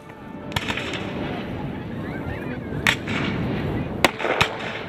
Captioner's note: rifles firing